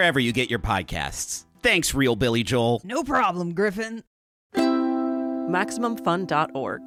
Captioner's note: gruffly